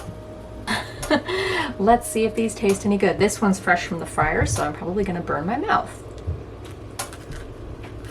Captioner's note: laughs